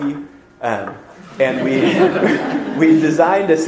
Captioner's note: audience laughter